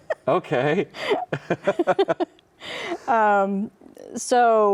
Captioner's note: both laugh